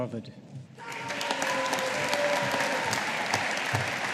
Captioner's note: audience applauding